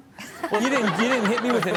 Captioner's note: Chanel and audience laughing